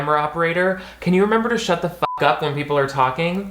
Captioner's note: beep